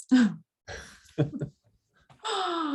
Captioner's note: chuckles